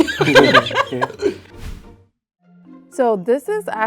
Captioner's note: laughs